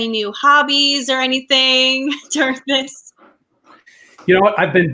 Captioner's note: laughs